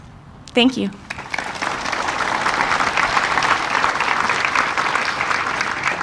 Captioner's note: audience applauding